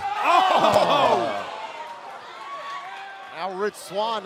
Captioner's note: crowd cheering